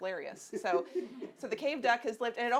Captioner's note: audience laughing